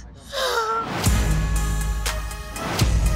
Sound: cries

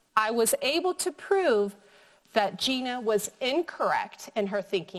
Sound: none

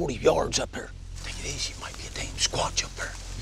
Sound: whispering

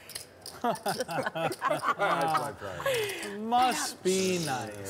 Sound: laughing

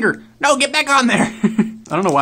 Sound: laughs

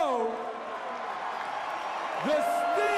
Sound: cheers and applause

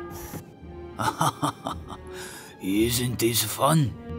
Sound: laughs

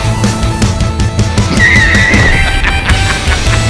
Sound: laughing

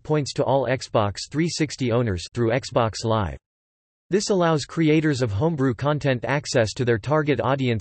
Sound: through Xbox Live

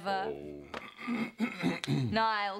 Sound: clears throat

